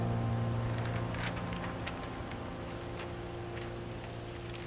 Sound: pensive music continues; papers rustling

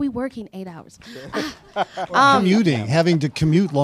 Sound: sighs

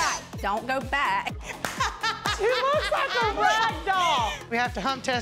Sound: laughs

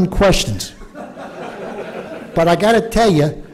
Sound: laughter

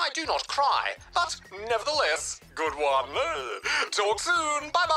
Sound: chuckles

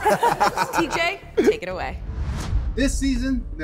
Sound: challengers laugh

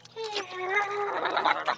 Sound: gurgling

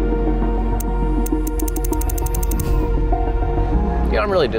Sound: suspenseful music; numbers ticking

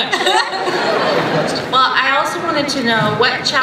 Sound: voiceover

